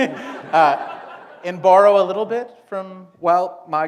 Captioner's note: laughter